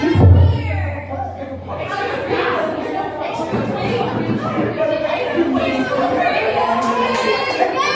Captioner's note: general chaos